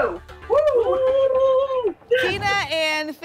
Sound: cheering

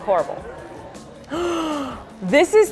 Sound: gasp

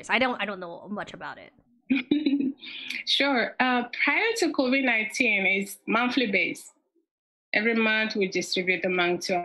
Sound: giggles

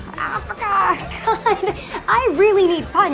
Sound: laughing; sighs

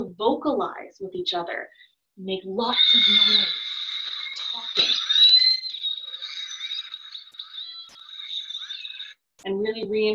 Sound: killer whales vocalizing

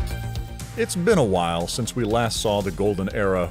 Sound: voiceover

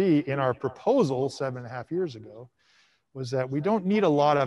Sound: none

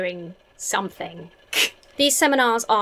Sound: chuckles

